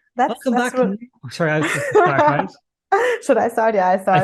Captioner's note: laughing